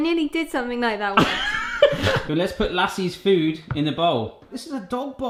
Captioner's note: laughs